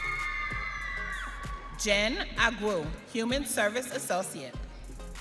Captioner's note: audience cheering